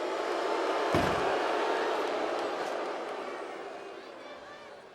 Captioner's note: audience booing; door bangs